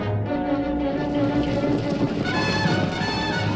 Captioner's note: horses galloping